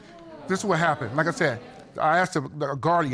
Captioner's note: audience exclaiming